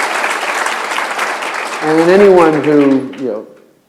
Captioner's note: applause